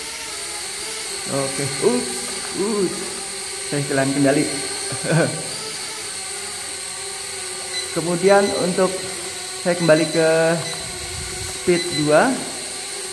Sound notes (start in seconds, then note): 4.8 chuckle